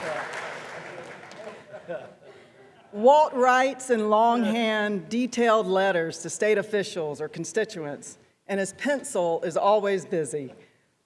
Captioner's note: applause; laughter